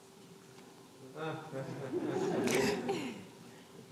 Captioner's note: laughter